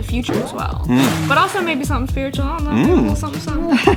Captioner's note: laughs